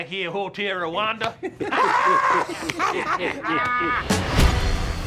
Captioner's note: laughing; funky music